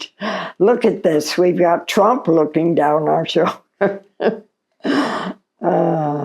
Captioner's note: chuckles